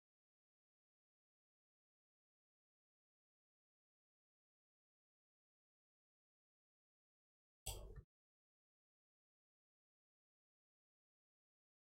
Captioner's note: blank Audio